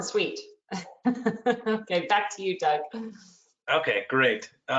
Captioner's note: laughs